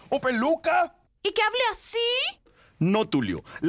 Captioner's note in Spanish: Pone voz mas aguda